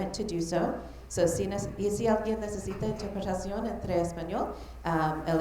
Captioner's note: speaking Spanish